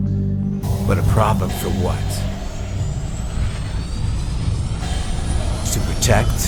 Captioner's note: pensive music; spacecraft whooshing